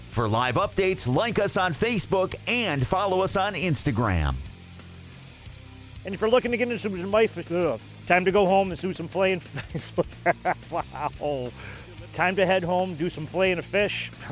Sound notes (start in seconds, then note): 9.9 laughs